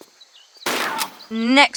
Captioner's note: bam